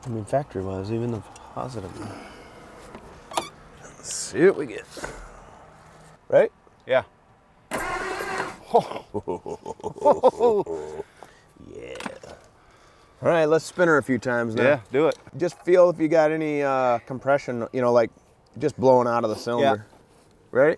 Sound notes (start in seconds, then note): 2.7 vehicle door creaks; 7.7 vehicle engine clicking; 8.0 vehicle engine hums; 8.6 laughs